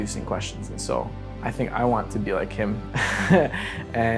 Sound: laughs

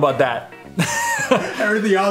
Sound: laugh

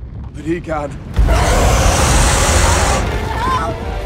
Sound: huuuuuuuuuuuuuuuuumpf

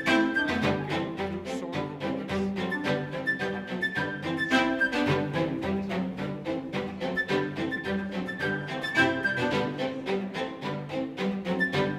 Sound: happy String Music; soft background chatter

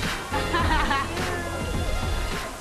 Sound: Tonya chuckles

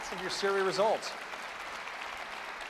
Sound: applause

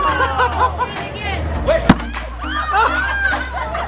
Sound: laughing

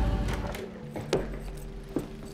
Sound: door opening; soft music

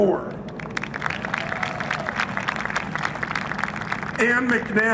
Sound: applause

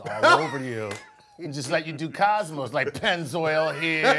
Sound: laugh

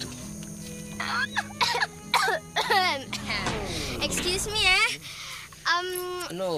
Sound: giggles; clears throat

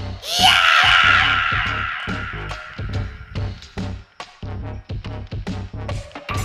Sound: ominous music; shrieking

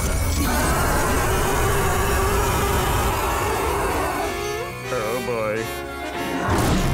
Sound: screeching

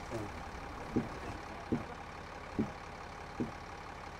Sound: slow footsteps

